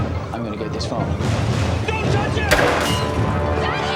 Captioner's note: gun fires